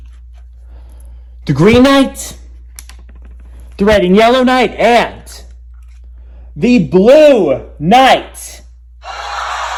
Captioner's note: Eastern Hemisphere cheers